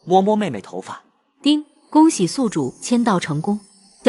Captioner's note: ding!